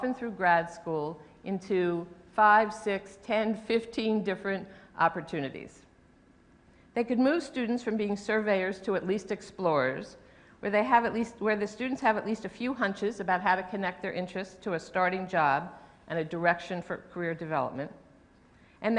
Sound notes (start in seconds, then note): none